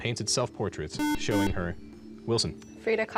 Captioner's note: beep